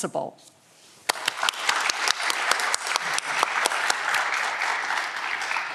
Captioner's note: audience clapping